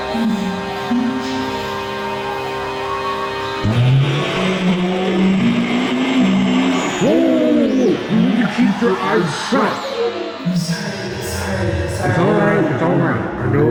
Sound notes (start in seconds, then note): 3.6 ragged screeching; 12.4 distorted v.o